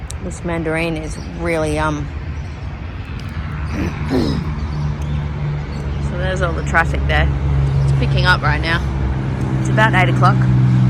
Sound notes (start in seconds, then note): 2.6 traffic noise can be heard